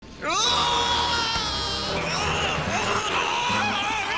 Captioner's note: yelling